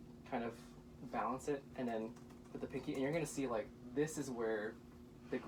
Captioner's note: angry typing noises